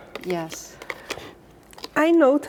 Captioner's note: plastic spoon taps